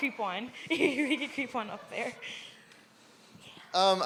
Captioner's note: laughs